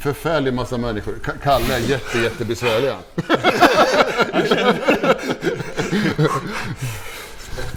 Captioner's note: laughs